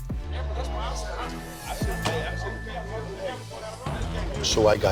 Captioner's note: bar patrons chat